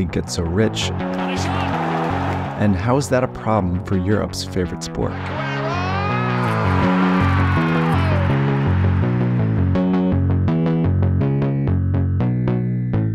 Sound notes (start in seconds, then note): 5.6 announcer shouting; 8.1 upbeat music